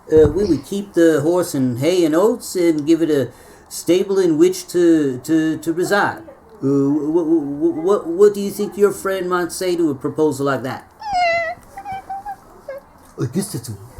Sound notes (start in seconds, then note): 11.0 neigh